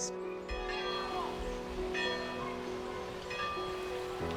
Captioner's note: bell rings